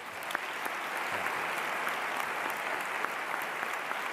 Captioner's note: applause